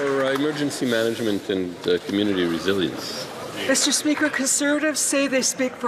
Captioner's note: some Applause